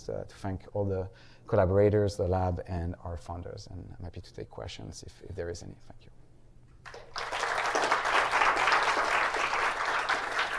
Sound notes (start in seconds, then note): 6.8 applause